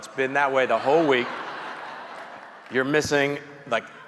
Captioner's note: audience chuckling